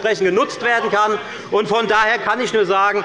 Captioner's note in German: Zurufe von dem BÜNDNIS 90/DIE GRÜNEN